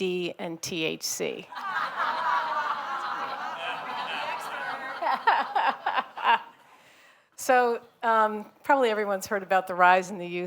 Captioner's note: laughter